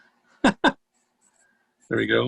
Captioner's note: laughs